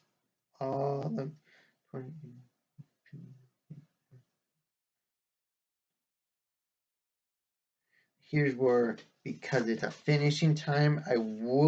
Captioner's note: resumes normal voice